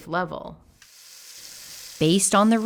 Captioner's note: faucet water running